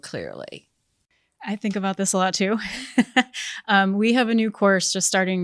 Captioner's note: laughs